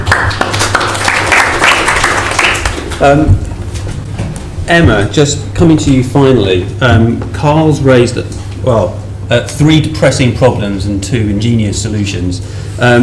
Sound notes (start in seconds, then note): 0.0 applause